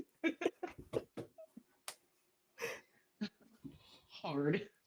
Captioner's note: laugh